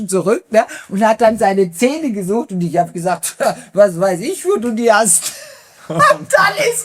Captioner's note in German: gelächter